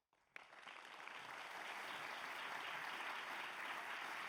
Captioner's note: audience applauds